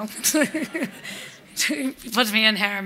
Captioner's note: laughter